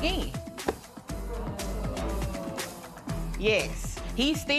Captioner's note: spectators murmuring